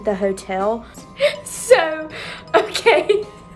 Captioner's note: giggles